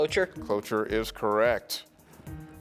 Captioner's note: teammates whispering